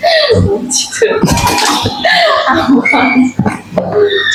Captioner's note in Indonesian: tertawa